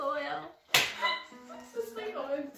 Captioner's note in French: Plus de rires